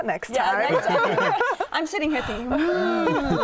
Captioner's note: laughter